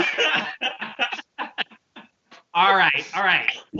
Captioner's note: laughter